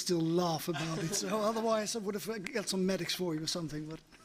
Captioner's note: laughter